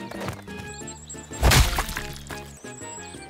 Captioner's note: splat!